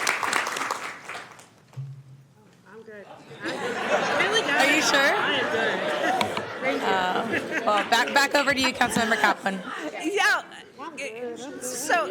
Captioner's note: applause